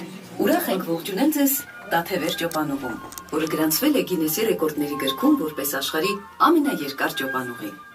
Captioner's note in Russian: речь на армянском